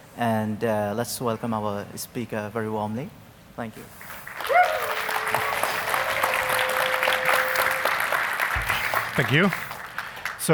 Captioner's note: applause